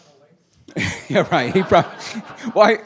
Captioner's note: laughing